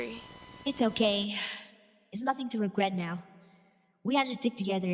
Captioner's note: sigh